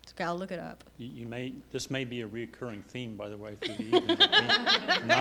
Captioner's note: laughter